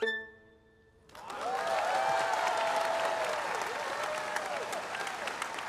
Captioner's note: attendees cheering and applauding